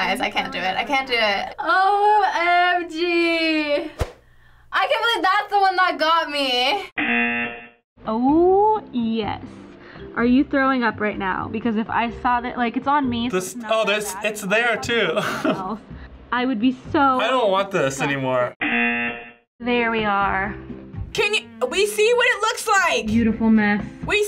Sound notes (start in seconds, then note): 7.0 buzzer; 14.8 chuckles; 18.5 buzzer